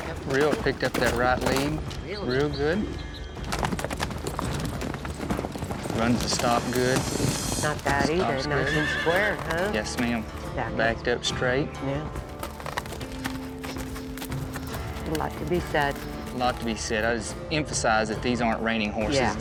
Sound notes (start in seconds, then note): 3.0 hoof beats; 8.4 horse neighing; 12.3 hoof beats